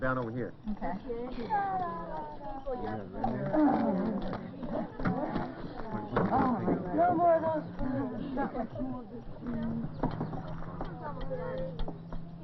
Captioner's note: children chattering